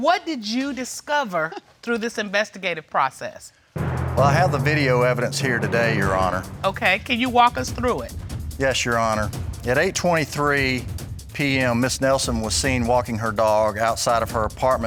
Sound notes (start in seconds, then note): none